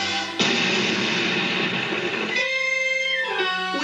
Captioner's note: boom